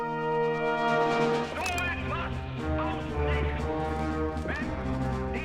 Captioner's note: speaking german